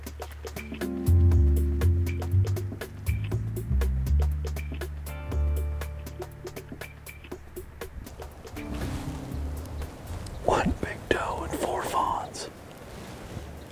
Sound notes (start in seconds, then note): 3.3 whispering